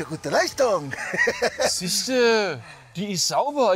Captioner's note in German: Lacher